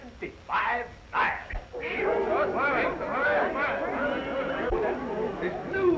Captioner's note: all chattering